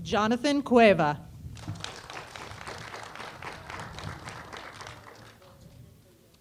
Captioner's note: applause